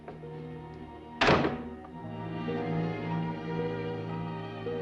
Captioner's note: cabinet thuds